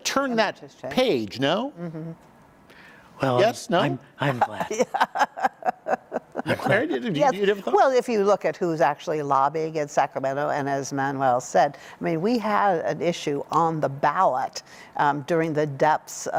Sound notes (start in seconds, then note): 7.6 laughter